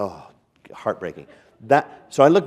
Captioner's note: chuckle